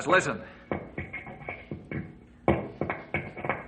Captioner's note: knocking